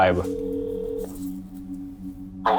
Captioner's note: phone ringing